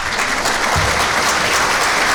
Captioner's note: clapping